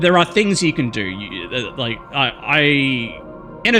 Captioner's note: stutters